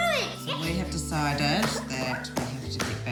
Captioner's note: shouts